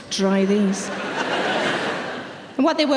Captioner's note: audience laughing